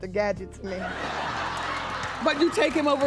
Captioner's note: laughing